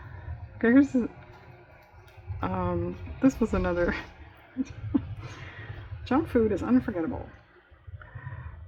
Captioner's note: laughs